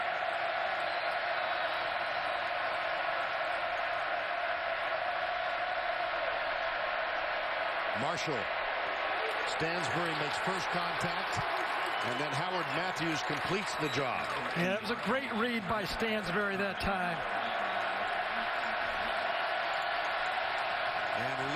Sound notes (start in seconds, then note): 12.8 crowd noise